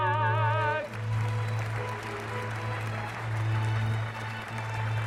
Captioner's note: cheers and applause